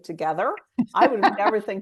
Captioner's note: laughs